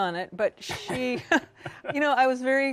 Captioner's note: chuckle